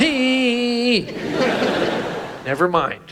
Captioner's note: audience laughs